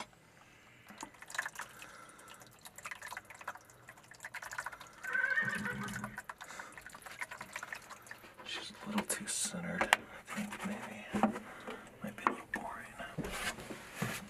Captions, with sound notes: (liquid burbling) (horse whinnies) She's a little too centered I think maybe. Might be a little boring.